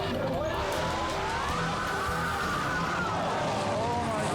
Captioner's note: people screaming